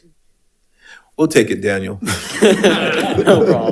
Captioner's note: laughs